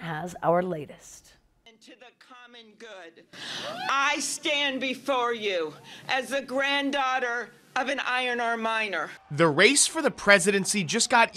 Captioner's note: natural sounds of cheers and applause